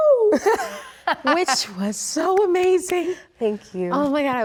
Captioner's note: Rachel laughs